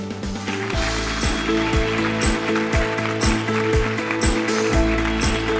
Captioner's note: audience applause